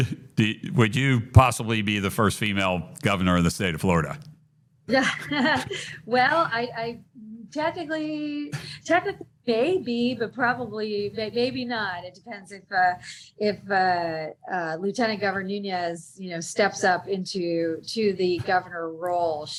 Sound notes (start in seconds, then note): 4.9 chuckles